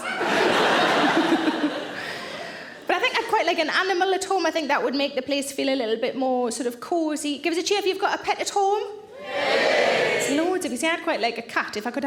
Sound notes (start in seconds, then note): 0.0 audience laughing; 9.2 audience cheering